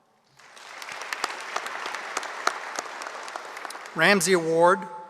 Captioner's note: audience applauding